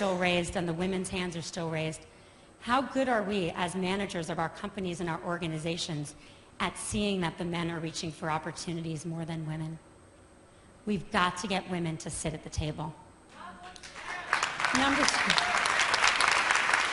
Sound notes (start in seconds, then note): 13.7 applause; 13.9 cheers